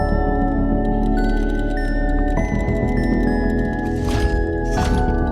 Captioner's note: cranking and whirring